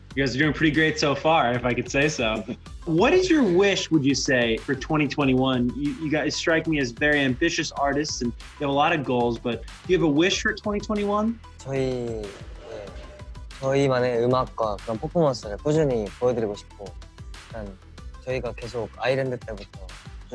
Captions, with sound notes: - You guys are doing pretty great so far, if I could say so. What is your wish, would you say for 2021? You guys strike me as very ambitious artists and there are a lot of goals, but you have a wish for 2021? (speaking in foreign)